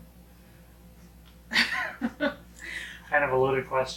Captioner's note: laughing